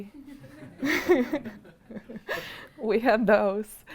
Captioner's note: chuckling